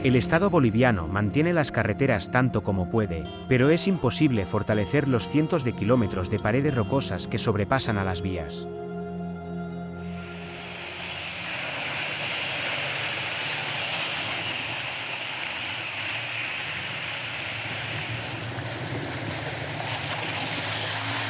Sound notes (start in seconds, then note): 10.8 engine rumbling